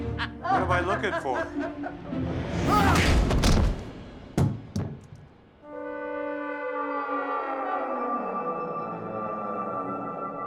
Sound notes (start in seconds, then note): 0.0 still laughing; 3.0 thump